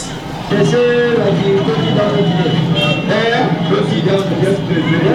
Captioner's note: speaking in foreign language